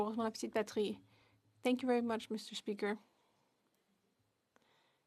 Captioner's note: speaking French